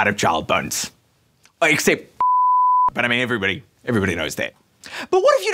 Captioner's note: beeeeeeeep